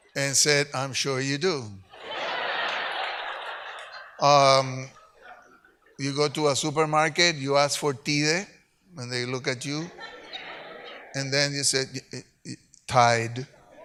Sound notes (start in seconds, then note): 1.9 audience laughs; 8.2 speaks Spanish; 9.7 audience laughs